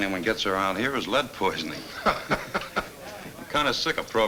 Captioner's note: Bill chuckles